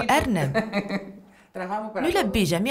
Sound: laughter

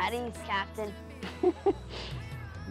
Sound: laughs

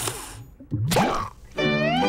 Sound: popping

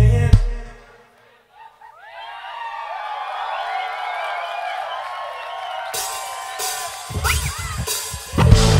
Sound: audience cheers

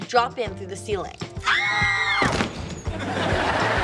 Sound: screaming

